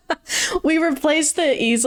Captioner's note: laughs